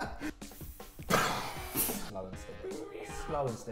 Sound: laughing; hissing

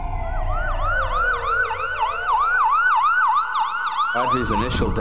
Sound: sirens

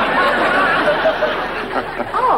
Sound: audience laughing

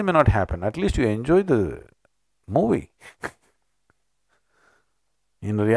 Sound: laughs

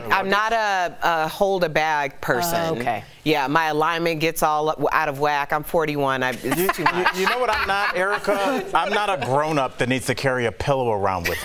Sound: laughter

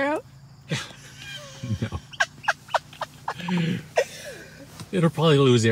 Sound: laughing

